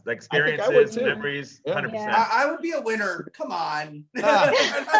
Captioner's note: laughs